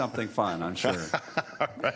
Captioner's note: laughter